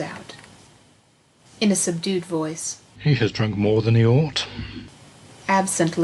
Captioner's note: in a subdued voice